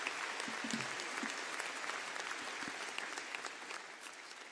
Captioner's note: applause